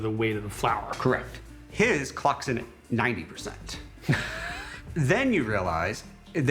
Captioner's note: laughs